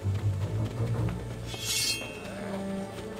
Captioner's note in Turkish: Kılıç çekme sesleri